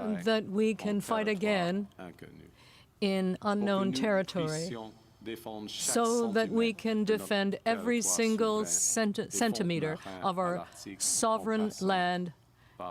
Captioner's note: speaking French